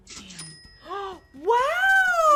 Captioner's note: gasps